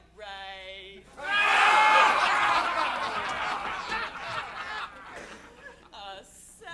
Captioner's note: pirates laughing